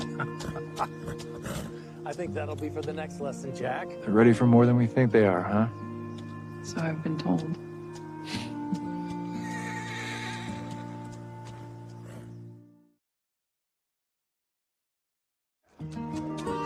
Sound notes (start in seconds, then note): 0.0 laughs; 11.6 horse whinnies